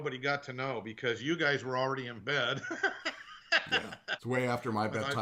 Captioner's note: laughing